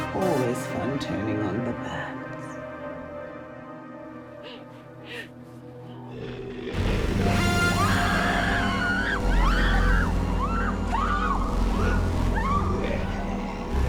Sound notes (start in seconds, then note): 4.3 dramatic music; 7.6 all screaming; 10.8 dramatic music